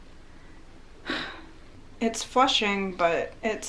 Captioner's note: sighs